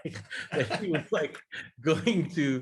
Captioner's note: laugh